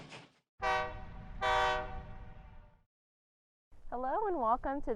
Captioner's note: train horn whistling